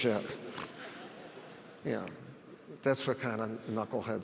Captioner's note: audience laughs